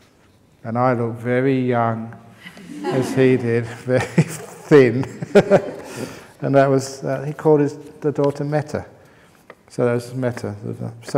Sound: laughter

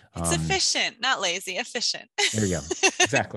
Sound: laugh

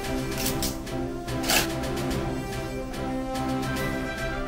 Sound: squeak, squeak

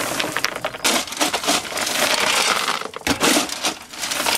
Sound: shovel scraping

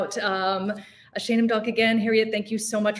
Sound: speaking in foreign language

